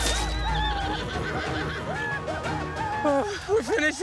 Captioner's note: gunshot; war cries